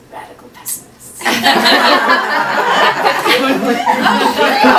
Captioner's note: audience laughing